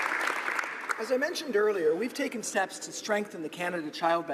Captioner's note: applause